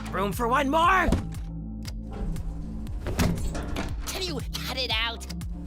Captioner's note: none